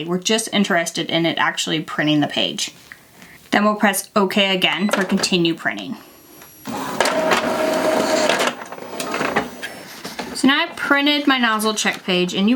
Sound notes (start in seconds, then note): 6.5 printer whirring